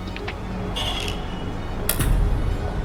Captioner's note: door opens